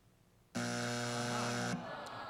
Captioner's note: buzzer